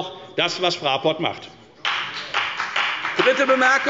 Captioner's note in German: Beifall bei der FDP